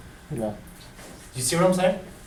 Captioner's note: voiceover